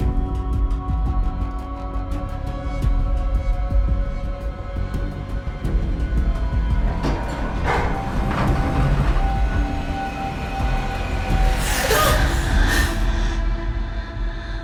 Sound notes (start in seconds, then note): 0.3 slow music continues; 6.4 door clanks; 11.0 slow music continues; 11.5 Anya gasps